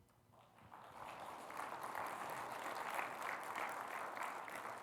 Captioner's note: audience clapping